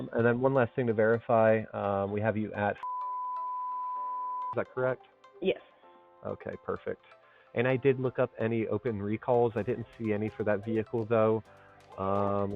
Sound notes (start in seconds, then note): 2.8 beep